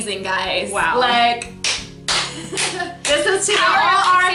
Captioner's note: claps